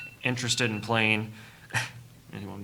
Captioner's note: alarm sounding